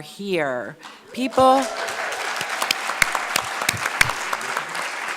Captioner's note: audience clapping